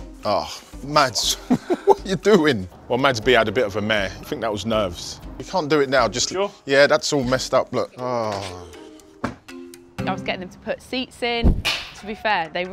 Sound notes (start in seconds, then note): 1.3 laughs; 8.0 groans